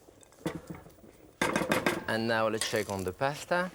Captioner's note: bowl clatters